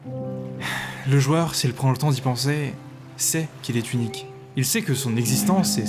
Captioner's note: sigh